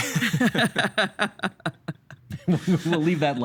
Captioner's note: laughing